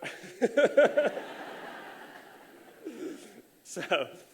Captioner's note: laughter